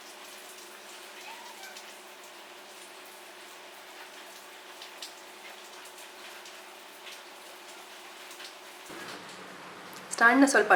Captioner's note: pitter patter of the rain drops